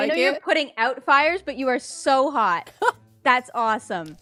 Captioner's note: laughs